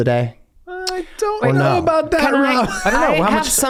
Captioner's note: laughs